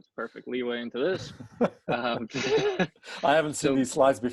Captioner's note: laughs